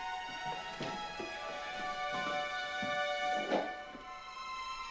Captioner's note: box clatters